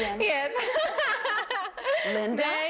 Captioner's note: laughing